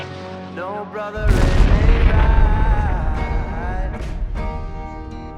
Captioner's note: napalm explodes